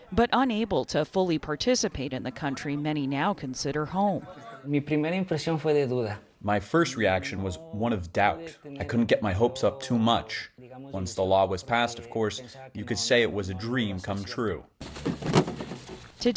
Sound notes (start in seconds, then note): 6.9 through translator